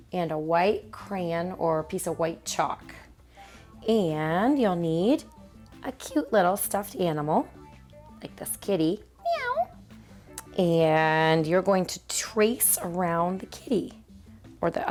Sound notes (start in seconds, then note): 9.2 meows